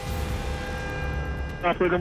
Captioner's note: car horn honking